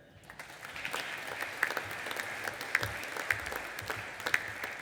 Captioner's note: audience applauding